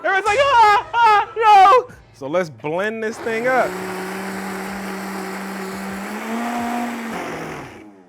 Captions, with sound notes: Everyone's like oh, oh, no. So let's blend this thing up. (blender whirring)